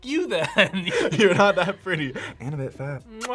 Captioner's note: laughs